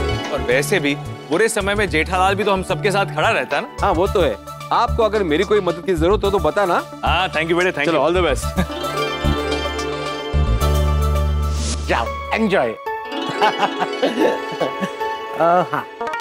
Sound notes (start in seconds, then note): 13.3 laughing